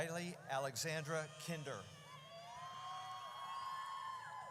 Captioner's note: audience cheers